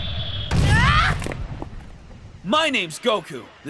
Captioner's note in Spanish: Aullidos de dolor